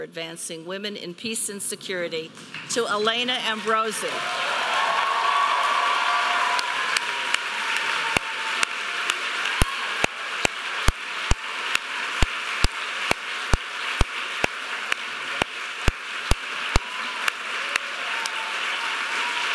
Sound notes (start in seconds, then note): 4.5 audience applauding